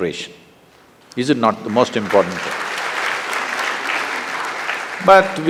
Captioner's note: applause